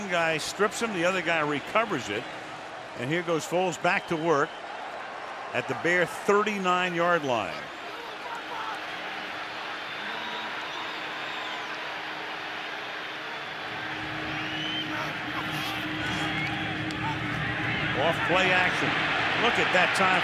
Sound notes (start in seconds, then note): 9.4 crowd cheering